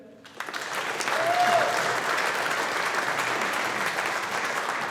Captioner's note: audience applauding